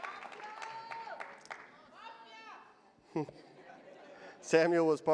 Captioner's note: chuckles